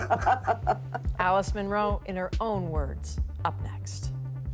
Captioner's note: laughter